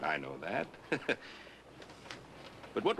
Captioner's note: Ben chuckles